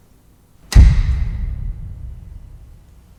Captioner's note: lights flip on